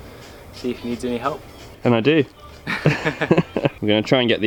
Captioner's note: they laugh